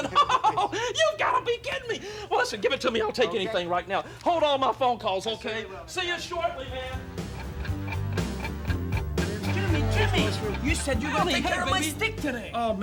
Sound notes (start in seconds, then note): 0.0 laughs; 6.5 rock music; 6.7 clock ticking